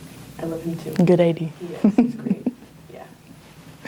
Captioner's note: laughs